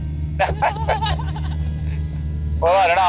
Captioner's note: laugh